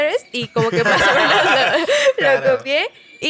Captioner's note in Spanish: Risas